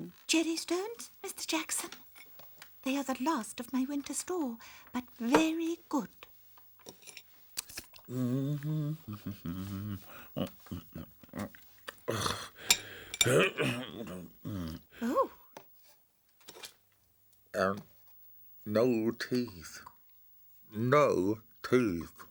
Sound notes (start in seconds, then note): 8.1 humming